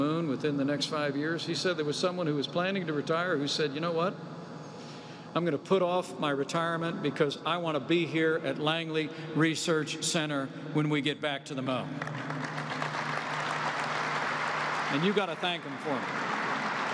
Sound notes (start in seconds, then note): 11.9 applause